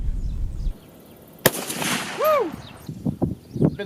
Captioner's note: gun fires